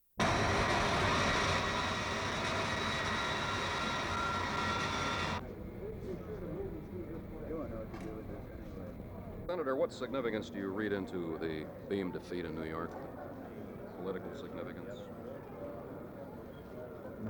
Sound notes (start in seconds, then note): 0.1 plane engine noise; 5.4 inside terminal room noise